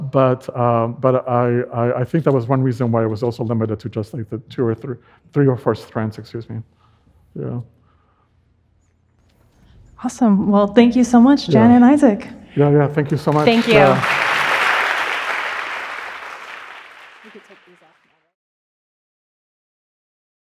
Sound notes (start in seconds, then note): 14.6 audience clapping